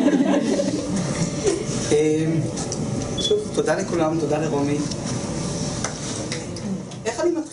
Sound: laughter

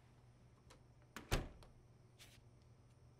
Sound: door closes

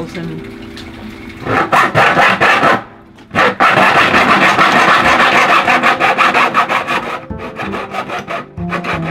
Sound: scraping sawing

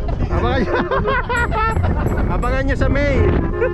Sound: laughing Out Loud!

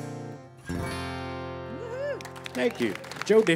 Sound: applause

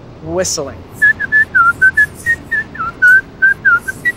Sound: whistles

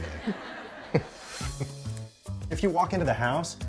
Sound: laughs

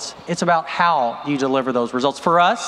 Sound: none

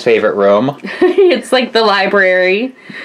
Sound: laughs

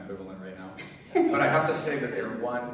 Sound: laughing

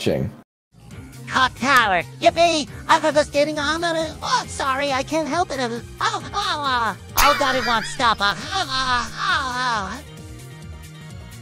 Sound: orgasm noises

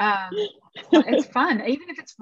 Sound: she chuckles

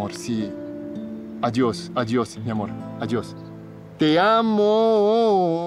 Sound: Alejandro speaking Spanish

